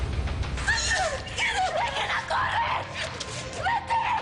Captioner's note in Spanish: Gritos